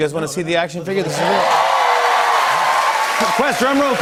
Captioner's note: cheers and applause